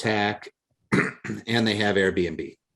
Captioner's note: clears throat